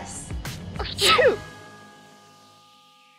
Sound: sneeze

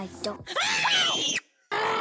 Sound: screams

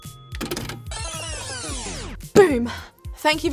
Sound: timer dings; tape zooms

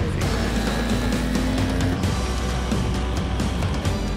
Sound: small propeller whirring

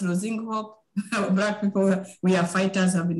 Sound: chuckling

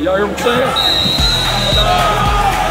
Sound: whistle; upbeat music and cheering

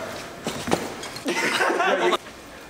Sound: laughter

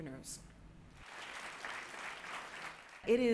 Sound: audience clapping

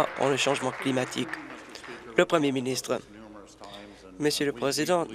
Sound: applause

